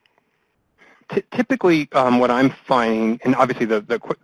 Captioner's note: voiceover